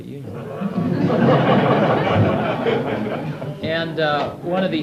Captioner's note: audience laughs